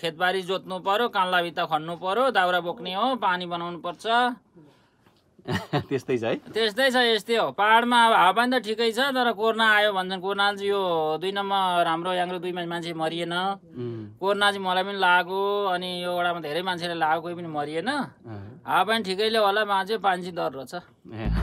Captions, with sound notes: You'd have to do things like farming the lands, ploughing the fields, collecting firewood, and sometimes fixing the water line. (laughter) It's like that, huh? Yes, it's like that. Yeah, the environment is good in these mountains. There were no deaths in this village during the Covid pandemic. Many of us were infected, including me, but there were no deaths here. Maybe it's the environment here, but people seem to be quite healthy here.